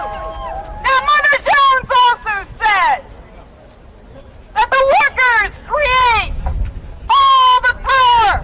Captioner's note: cheers and applause